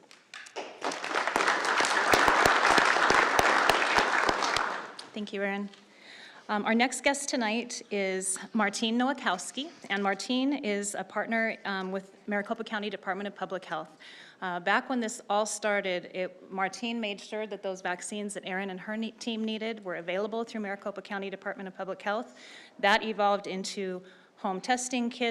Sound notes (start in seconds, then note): 4.7 applause